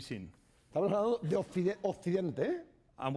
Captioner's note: speaking spanish